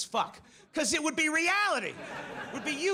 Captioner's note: audience laughs